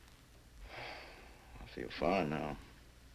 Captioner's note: sighs